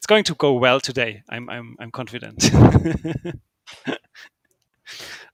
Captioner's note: laughs